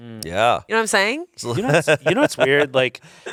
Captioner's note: laughs